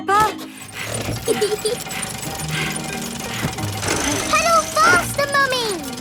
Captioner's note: mummy pig panting; peppa laughing